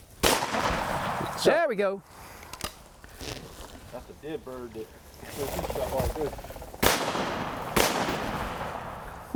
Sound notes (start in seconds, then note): 0.2 gun shots; 6.8 gun shot; 6.8 gun shots